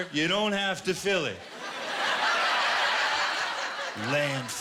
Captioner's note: laughter